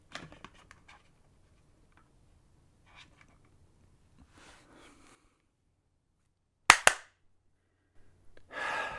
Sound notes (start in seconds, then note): 6.7 clap